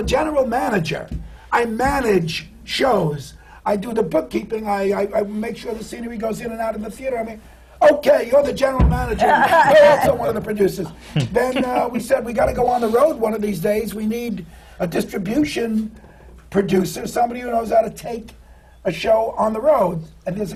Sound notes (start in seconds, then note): 11.1 laughter